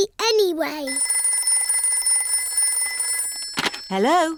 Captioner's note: phone rings